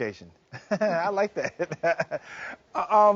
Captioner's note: chuckling